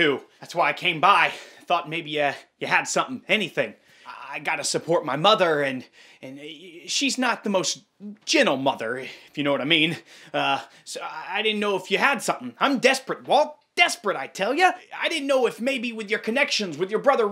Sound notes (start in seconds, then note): none